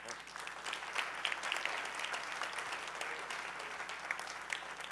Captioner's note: audience applauding